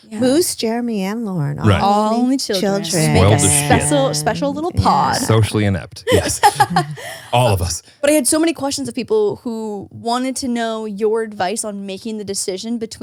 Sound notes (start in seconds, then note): 6.0 laughs